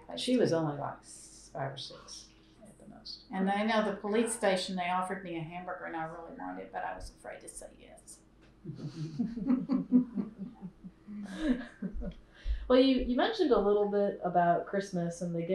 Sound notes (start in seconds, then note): 8.7 laughter